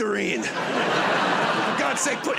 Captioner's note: laughter